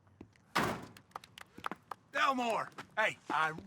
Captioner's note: people applauding